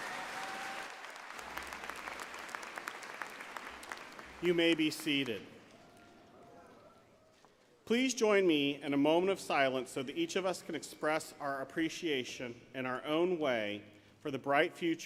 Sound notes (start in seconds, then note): 3.0 applause